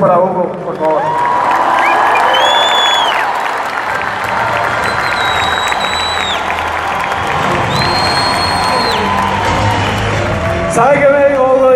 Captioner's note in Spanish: aplausos